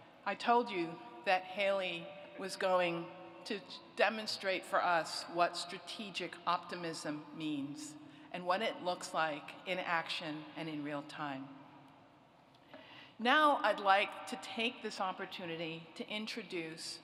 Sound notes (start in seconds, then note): none